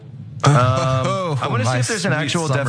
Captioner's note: laugh